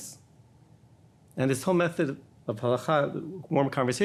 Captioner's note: speaking in foreign language